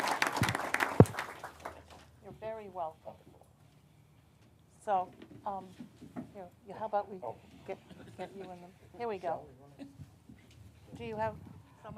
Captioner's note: applause